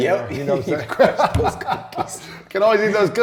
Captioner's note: laughter